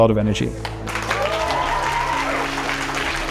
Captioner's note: applause